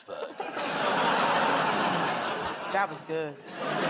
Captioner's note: laughter